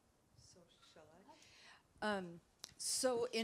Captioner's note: speaks softly